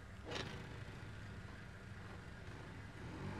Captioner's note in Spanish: motoneta acelerando